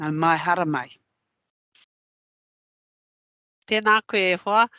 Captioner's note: non-english speech